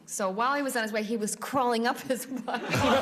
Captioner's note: laughter, buzzer sounds